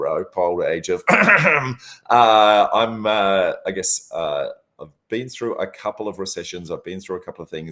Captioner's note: cough